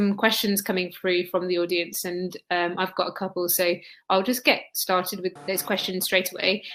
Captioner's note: erm